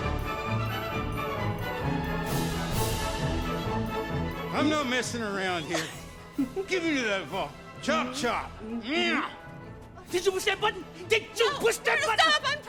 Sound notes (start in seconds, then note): 0.1 fast instrumental music; 5.7 woman giggling